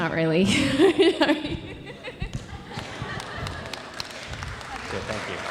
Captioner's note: audience applauds